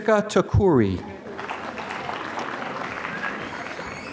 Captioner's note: applause